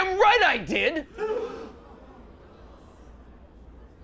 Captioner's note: gasps from gallery